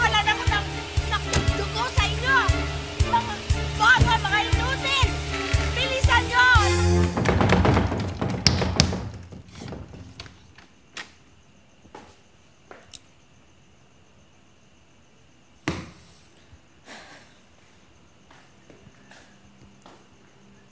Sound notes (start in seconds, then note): 6.6 rattling; 15.6 sighs